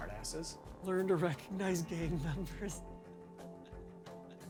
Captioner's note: chuckles